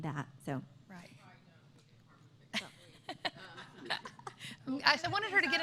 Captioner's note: laughter